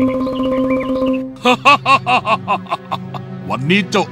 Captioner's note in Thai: หัวเราะ